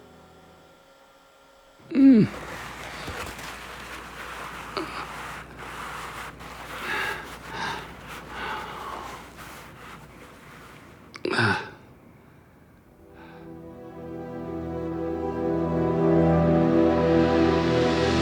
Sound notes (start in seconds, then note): 1.9 grunting; 13.0 dramatic music